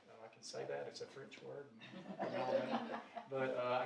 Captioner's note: audience laughing